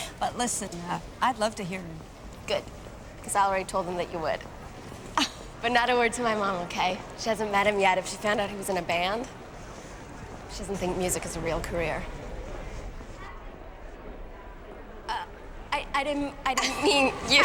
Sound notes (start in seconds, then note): 5.3 chuckles